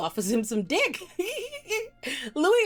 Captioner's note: laughing